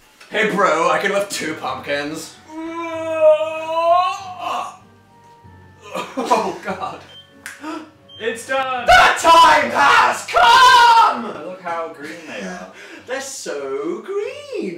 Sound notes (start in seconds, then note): 3.1 grunts; 7.6 gasp